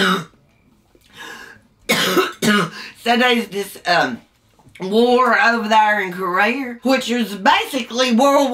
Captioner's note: coughs